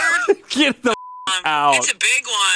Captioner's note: beep